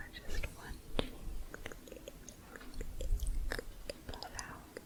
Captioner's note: tongue clicking